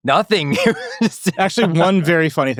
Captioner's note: laughing